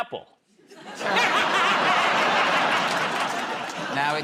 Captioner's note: laughter